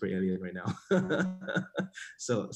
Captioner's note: laughs